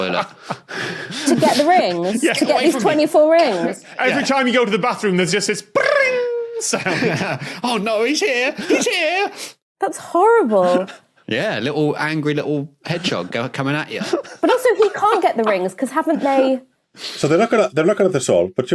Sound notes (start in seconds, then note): 1.0 laughs uproariously; 5.8 laughs